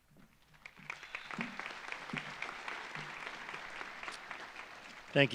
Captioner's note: audience applauds